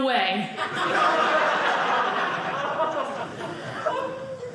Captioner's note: audience laughing